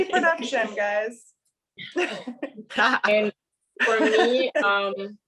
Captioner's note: laughter